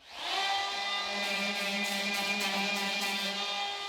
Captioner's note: saw noise